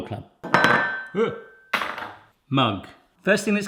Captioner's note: cup and spoon rattling